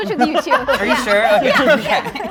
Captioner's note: group laughing